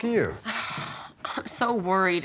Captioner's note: angela sighs